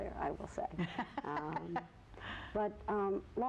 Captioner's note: laughs